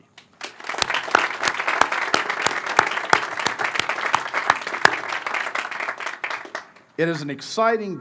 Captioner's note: applause